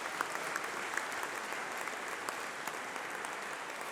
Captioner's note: applause